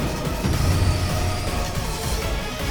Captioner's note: Sandy Shocks's cry